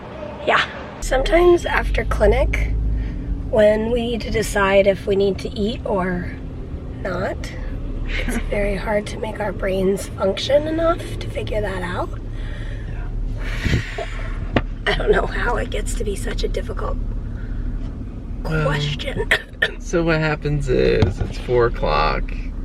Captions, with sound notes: Yeah. Sometimes after clinic when we need to decide if we need to eat or... not, it's very hard to make our brains function enough to figure that out. [heavy sigh] I don't know how it gets to be such a difficult... question. And so what happens is it's four o'clock